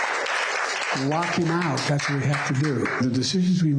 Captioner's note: applause